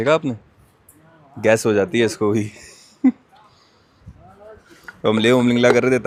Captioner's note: chuckles